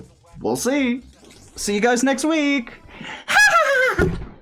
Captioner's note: crazy laugh